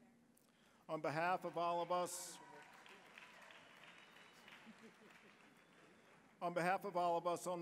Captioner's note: applause